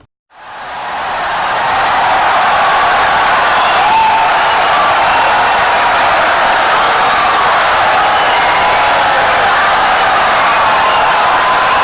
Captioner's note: wild applause and cheering for 17 seconds